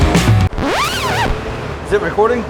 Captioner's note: record scratch